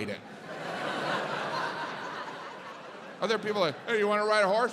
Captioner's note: audience laughs